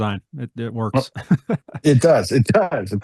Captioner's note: laughs